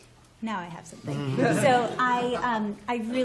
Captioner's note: laughter